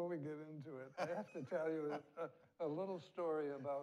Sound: laughs

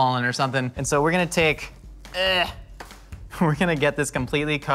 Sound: groans

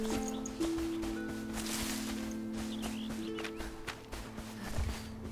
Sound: birds chirping

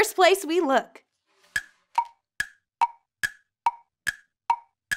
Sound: timer ticking

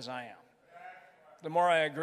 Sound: crowd

